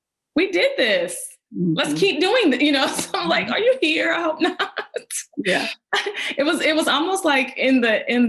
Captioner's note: laughs